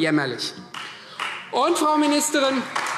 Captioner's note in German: Beifall Freie Demokraten und vereinzelt AfD